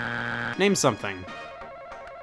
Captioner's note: buzzer beeps